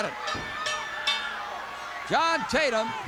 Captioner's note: bell rings